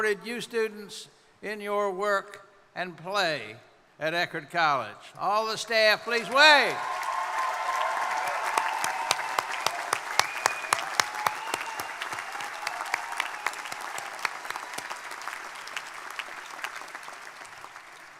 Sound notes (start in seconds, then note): 7.0 crowd applauding; 7.0 crowd cheering